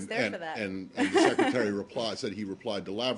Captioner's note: laughter